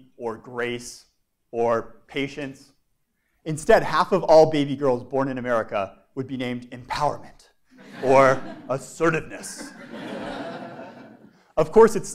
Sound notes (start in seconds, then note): 9.4 laugh